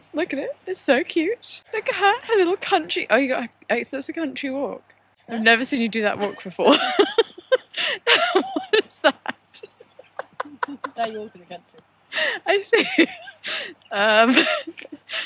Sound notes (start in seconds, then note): 8.0 laughing; 12.0 laughing